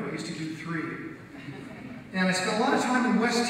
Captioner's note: audience laughs